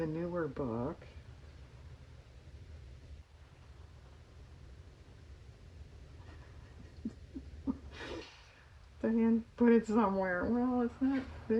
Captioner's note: laughs